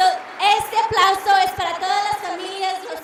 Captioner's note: applauding